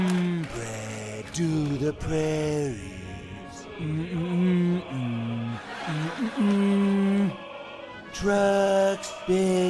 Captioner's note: humming; humming